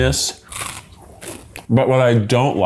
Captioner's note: crunching